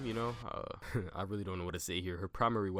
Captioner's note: laughs